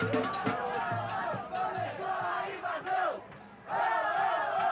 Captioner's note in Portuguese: Corintianos gritando